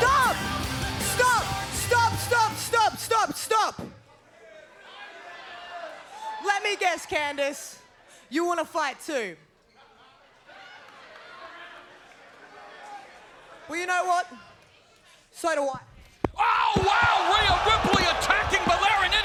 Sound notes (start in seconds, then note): 9.9 scattered laughter